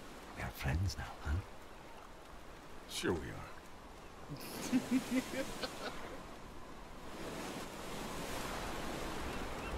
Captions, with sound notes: We're friends now, huh? Sure, we are. [LAUGHS]